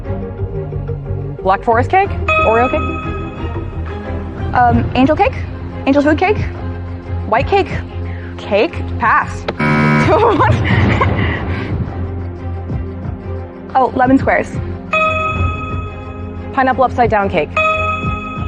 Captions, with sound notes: ? eoeo ce? Umanangecacake Anl l frt t ca?? Whe e ca? ? Ca?!?! Pa!! -(BUZZER SOUNDS) -Tr-- What?! Oh. Lemon squares. Pineapple upside-down cake.